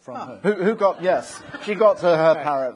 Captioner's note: audience laughing